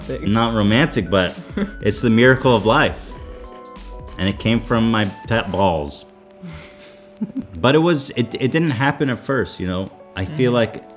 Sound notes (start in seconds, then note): 6.4 laughs